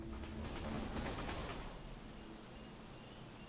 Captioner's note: train rattles